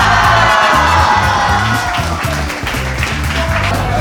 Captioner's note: haha